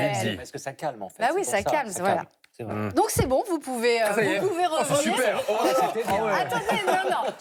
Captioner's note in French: rires